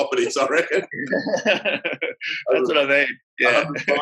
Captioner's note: laughs